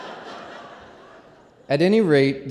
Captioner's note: laughter